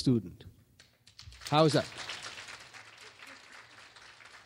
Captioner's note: clapping